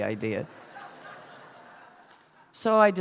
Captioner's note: laughter